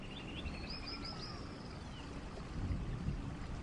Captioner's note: birds chirping